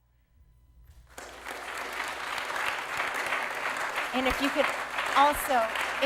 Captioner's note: applause